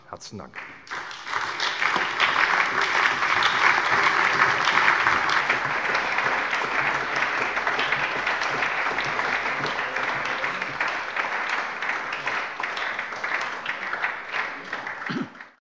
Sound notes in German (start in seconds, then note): 0.5 Allgemeiner Beifall